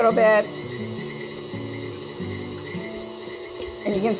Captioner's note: mixer revving